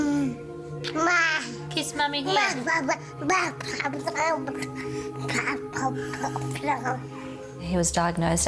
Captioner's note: babbling